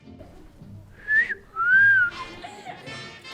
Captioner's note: whistles